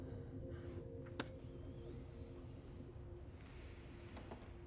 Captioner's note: computer keyboard click